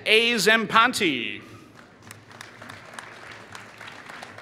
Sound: applause

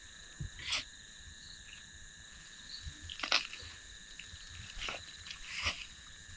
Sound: insects chirping; tools scraping

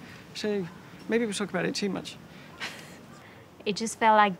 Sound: laughs

